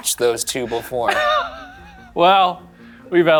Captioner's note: laughs